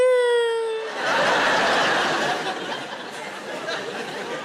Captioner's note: audience laughing